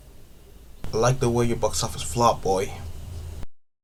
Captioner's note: bang!!!